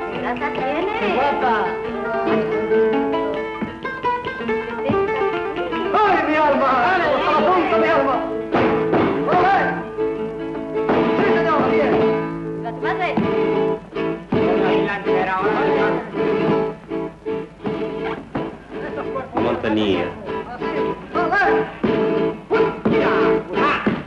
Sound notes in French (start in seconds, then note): 0.2 langue étrangère; 5.0 langue étrangère; 19.3 langue étrangère